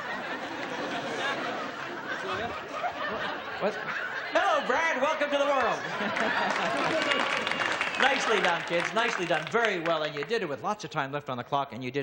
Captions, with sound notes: (everyone laughs) Hello, Brad! Welcome to the world! (everyone laughs) Nicely done kids, nicely done. Very well.